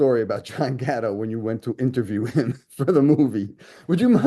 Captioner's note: laughs